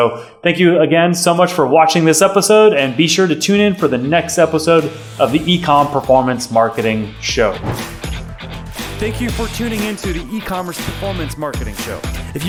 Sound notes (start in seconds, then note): 7.4 whooshing